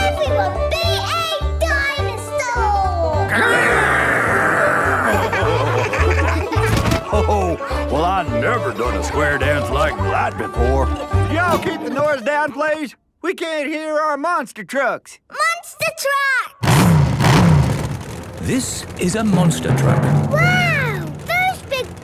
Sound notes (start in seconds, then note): 5.9 laughing; 16.6 engines revving